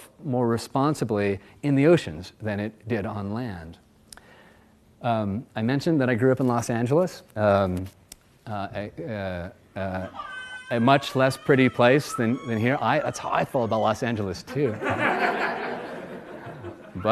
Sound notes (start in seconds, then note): 9.9 child starts crying; 14.5 audience laughs